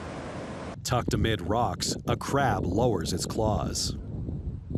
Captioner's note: wind